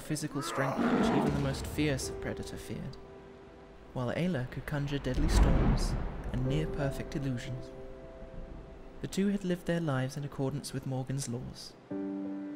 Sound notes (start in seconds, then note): 0.4 sounds of fighting in the background; 7.7 distant thunder